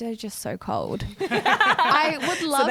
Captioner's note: laughing together